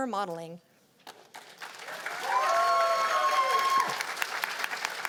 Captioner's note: cheers and applause